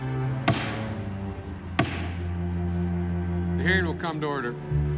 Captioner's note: gavel banging